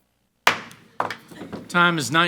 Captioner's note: hammer slamming